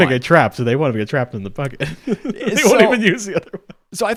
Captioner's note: laughs